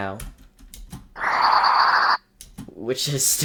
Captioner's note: nnnnnggguuhaaaaaaaaaahhhhahahaaaaaaaaaahhhhhhhahah